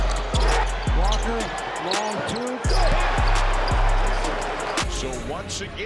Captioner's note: crowd cheers